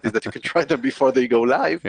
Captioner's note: laughs